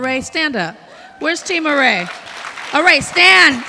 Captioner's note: audience cheering